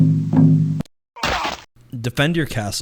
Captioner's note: drum beats; groans